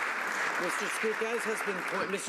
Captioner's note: some Applause